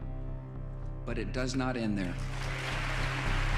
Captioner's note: crowd applauding